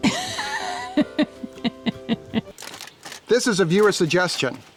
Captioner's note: laughs